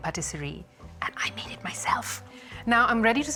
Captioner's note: whispering